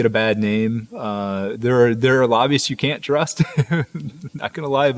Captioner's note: laughs